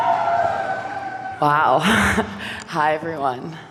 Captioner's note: chuckles